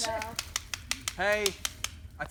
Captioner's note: bangs two sticks